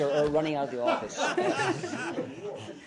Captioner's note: laughter